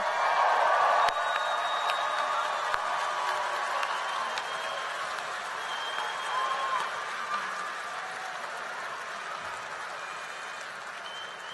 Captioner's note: applause and cheering